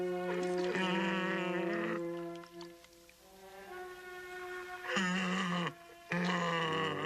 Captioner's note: Qahhar grunting; dramatic music